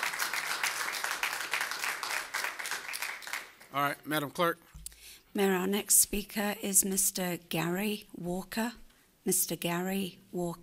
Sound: applause

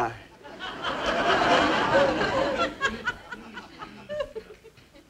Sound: audience laughing

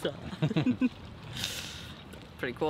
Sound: both giggling

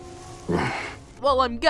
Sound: hrm

